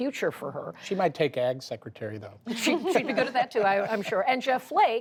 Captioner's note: laughter